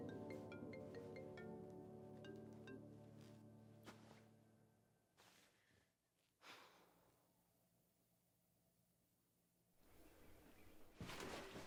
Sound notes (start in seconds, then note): 5.7 Summer sighs